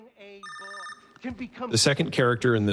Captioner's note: phone still rings